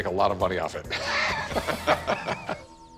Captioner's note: both laughing